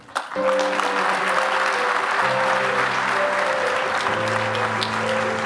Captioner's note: applause